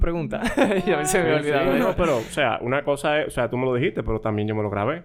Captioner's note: laughs